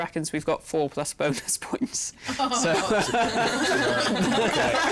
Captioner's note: chuckles; laughter